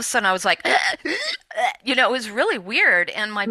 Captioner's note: imitating choking